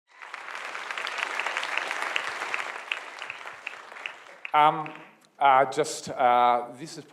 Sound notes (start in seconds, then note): 1.8 applause